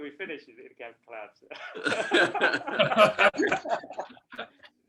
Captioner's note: laughter